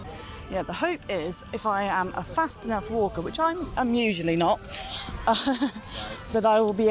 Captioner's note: laughs